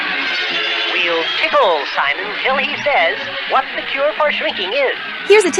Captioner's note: crowd Roars; crowd Roars